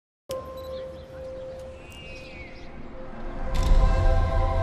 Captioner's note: girl outside, looking through a camera lens, birds chirping